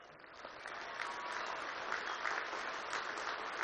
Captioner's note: applause